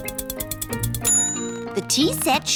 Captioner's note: bell dings